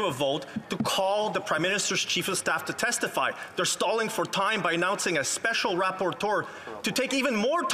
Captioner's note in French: voix de l'interprète